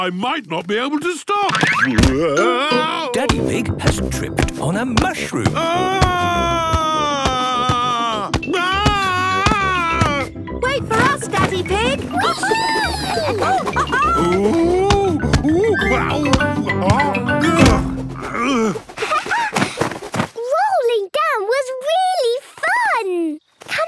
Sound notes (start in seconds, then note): 5.8 shouting; 13.7 laughing; 18.0 laughing